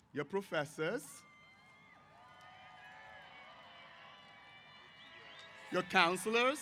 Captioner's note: cheers